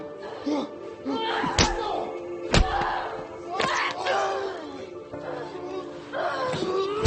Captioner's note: both grunting; punches thudding